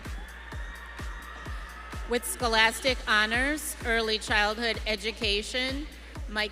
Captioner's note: audience cheering